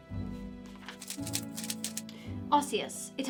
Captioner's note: pages flipping